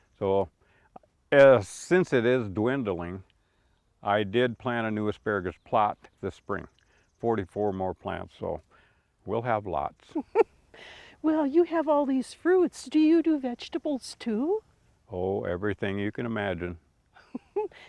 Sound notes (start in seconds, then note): 10.1 chuckles